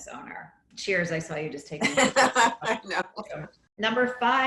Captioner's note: laughing